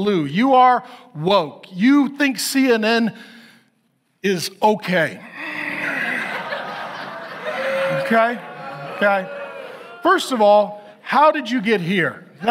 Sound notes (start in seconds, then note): 5.7 audience laughs